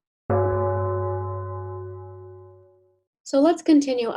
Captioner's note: gong ringing